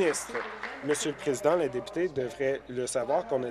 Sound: applause

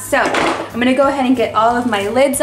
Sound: ice packs thud

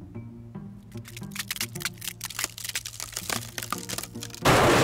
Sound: tub cracking

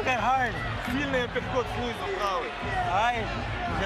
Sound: speaking foreign language

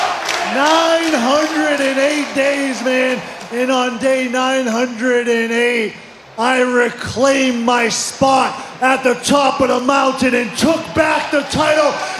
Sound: crowd chanting "ciampa"

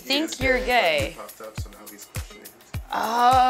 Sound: male Voice

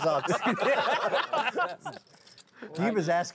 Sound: laughing

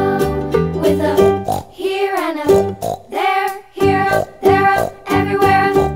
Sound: snort; snort-snort

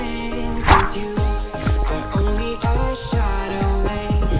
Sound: underwater whooshing

